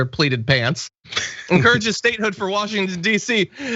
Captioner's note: laugh